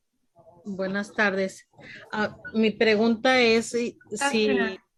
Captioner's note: speaking in Spanish